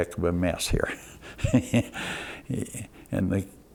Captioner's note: laughs